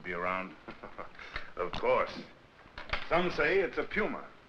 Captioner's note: chuckles